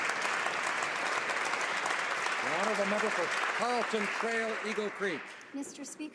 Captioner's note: applause